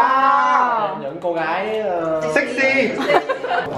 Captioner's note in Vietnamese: cười